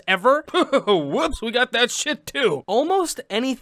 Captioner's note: coughing